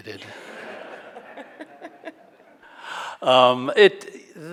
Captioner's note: audience laughing